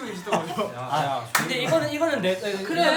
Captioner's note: mimicking Jinhoo